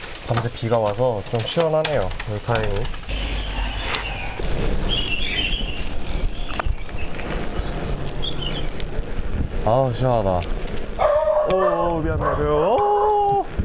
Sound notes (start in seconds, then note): 4.4 tropical bird sounds I've only heard in zoos